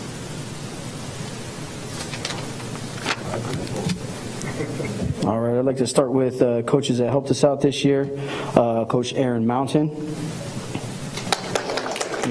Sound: applause

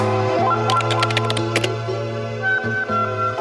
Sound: gentle music; keyboard tapping; gentle music

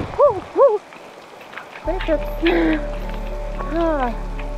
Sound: laughs at herself

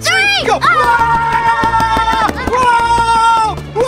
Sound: screams

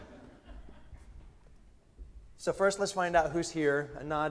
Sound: laughter

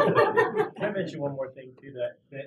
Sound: laugh

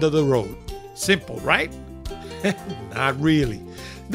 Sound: laughing

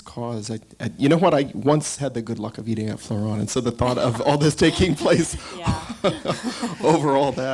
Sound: laughs

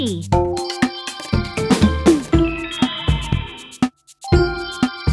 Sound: mystical tinkling

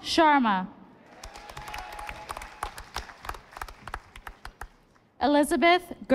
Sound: audience applauding

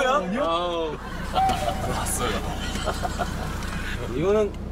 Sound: old fan cries here

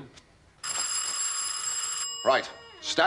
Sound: doorbell rings

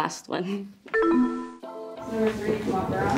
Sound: descending ding

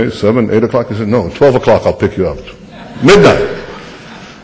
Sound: laughter

